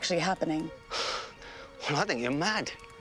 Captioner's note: sighs